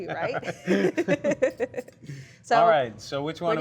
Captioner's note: laughs